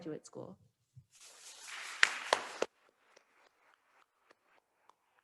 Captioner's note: attendees applauding